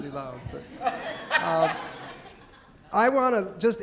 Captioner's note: audience laughing